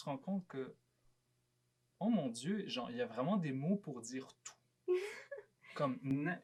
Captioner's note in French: rires